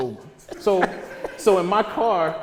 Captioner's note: audience laughter